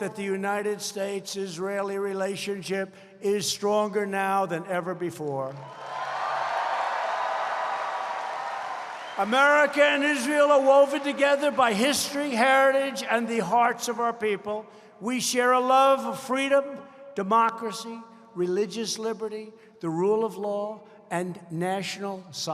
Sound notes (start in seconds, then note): 5.4 applause